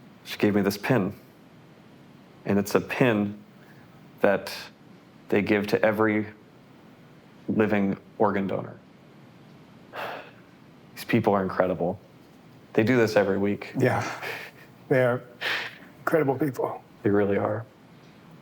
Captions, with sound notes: She gave me this pin and it's a pin that they give to every living organ donor. [sighs] These people are incredible. They do this every week. [laughs] - Yeah, they're incredible people. - They really are.